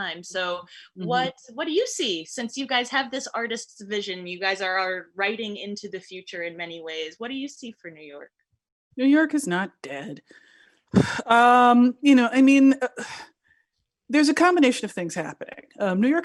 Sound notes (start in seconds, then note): 11.0 clears throat